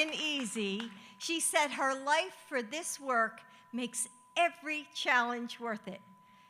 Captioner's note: applause